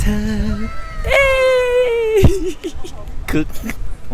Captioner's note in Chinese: 大笑